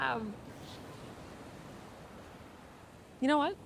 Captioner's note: waves crashing